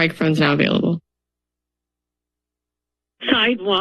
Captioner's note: silence